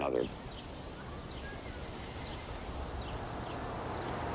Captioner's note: birds chirping